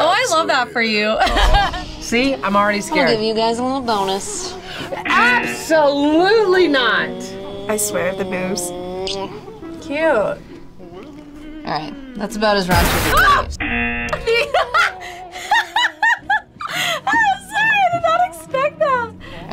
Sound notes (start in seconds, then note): 1.3 laughs; 5.0 buzzer rings; 12.9 screams; 14.1 laughs